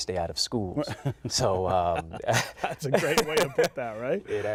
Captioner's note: laughter